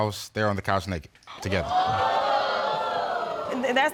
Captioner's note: audience exclaiming